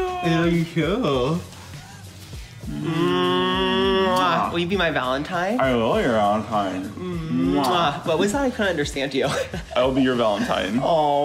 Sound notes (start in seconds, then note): 2.4 both make kissing sound; 7.6 both make kissing noises